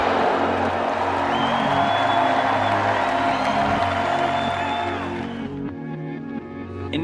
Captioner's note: loud applause, cheering